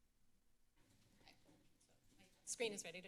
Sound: silence

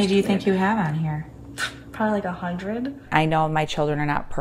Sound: scoffs

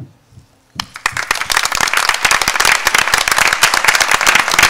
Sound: applause

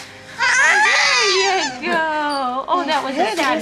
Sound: baby crying

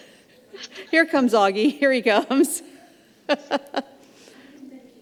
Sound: laughs

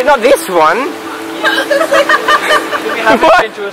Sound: laughs

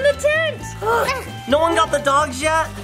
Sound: both groaning

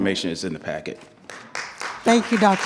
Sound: attendees clapping

